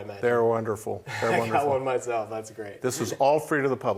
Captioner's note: laughs